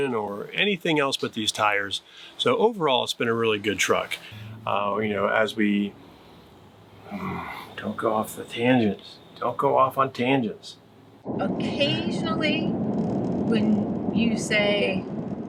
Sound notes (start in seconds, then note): 7.0 exhales heavily